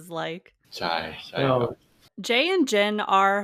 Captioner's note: in Thai